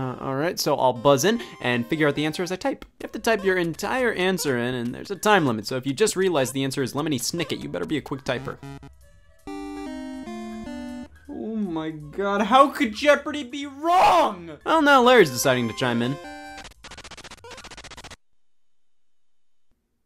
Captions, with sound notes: All right, so I'll buzz in and figure out the answer as I type. You have to type your entire answer in and there's a time limit. So if you just realize the answer is Lemony Snicket, you'll better be a quick typer. (techno tones) Oh my God, how could "Jeopardy!" be wrong? Oh, now Larry's deciding to chime in. (typing)